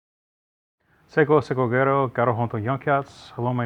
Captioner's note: greets in Mohawk